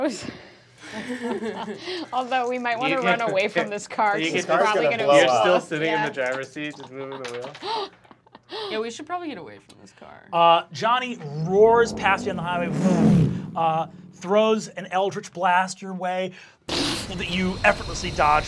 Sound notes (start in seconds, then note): 0.8 laughing; 7.8 laughing; 11.1 whooshes; 15.8 whooshes